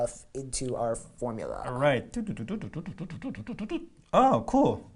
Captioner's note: making calculating noises